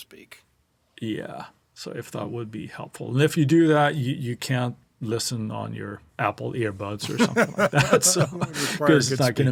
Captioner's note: laughs